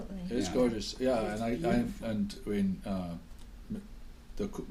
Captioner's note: voiceover